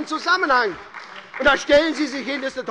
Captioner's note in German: Beifall bei Abgeordneten der SPD